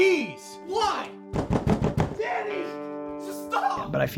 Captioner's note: door pounding